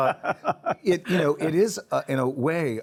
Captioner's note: chuckles